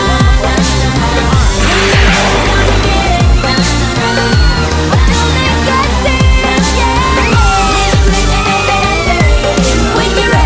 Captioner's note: Sweet Polly Screams